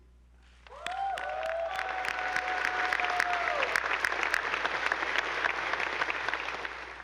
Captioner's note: attendees applauding; audience whooping